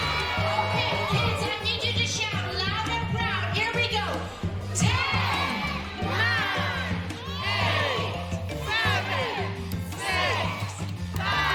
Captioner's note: applause